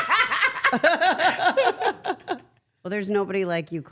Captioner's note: Claressa and Steph laughing